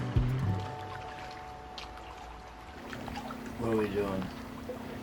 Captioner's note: water rippling